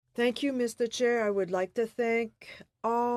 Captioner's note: speaking French